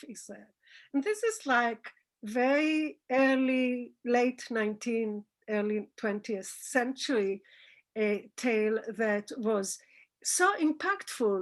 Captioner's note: Hebrew